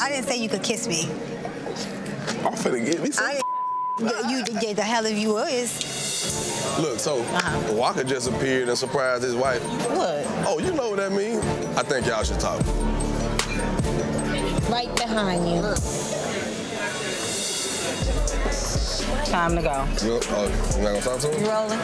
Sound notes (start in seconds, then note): 3.4 beep; 13.1 dramatic music